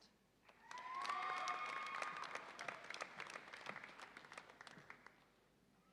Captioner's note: audience applauds and cheers